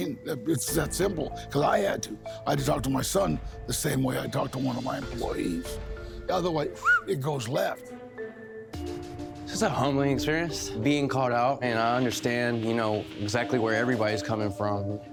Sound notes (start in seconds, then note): 6.7 whistles